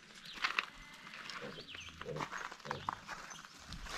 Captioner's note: birds chirping